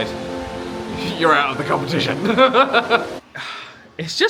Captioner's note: laughs